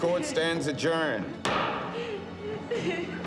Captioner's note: gavel pounds